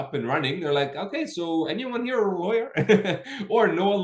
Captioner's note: laughing